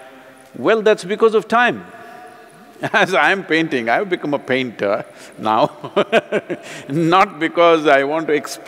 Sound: laughs

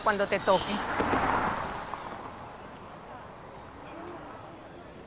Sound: traffic humming

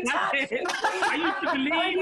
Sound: laughs

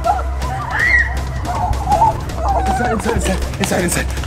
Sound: screams

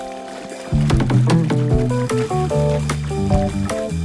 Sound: water splashing; bright music

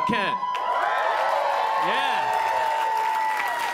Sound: audience cheering

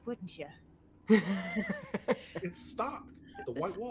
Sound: laughter

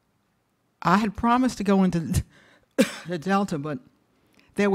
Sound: coughs

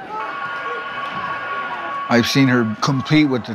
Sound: fight bell ringing

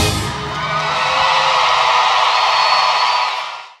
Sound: gritos

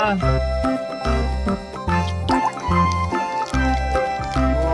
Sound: annoyance

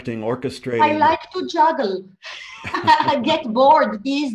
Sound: both laugh

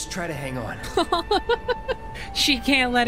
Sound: laughing

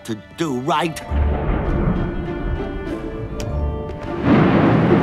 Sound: raining hard

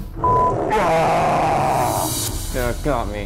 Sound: screaming

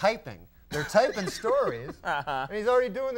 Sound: Conan laughing

